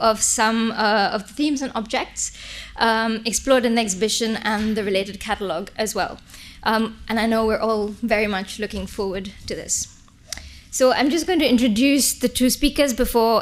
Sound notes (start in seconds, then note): none